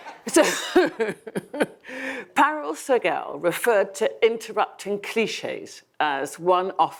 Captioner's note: audience laughs; laughs